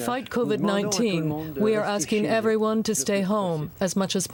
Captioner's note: speaking French